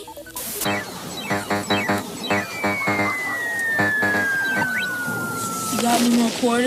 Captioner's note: video game sound effects